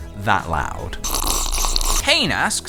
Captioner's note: louder slurp